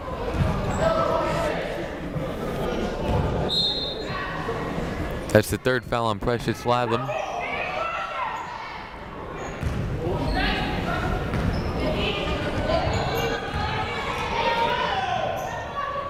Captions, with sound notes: (whistle blows) That's the third foul on Precious Latham.